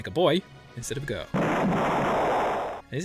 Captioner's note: earth-shattering kaboom